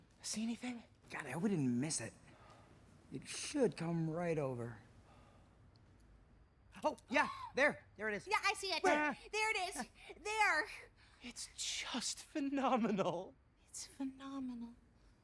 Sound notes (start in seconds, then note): 7.8 gasps